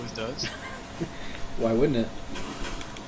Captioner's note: laughing